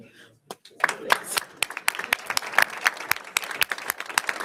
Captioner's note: audience applauding